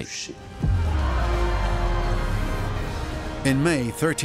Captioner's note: crowd cheers